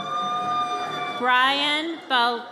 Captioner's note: audience cheers